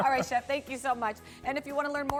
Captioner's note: laughter